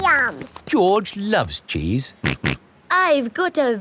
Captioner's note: snorts